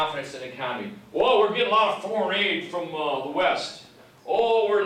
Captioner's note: imitates cowboy